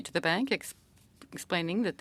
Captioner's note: speaking French